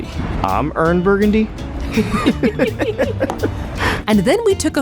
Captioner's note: laughs